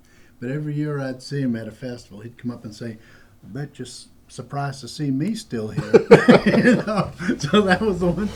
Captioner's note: laughter